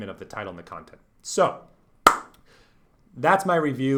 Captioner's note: smacks hands